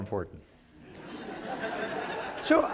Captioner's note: laughter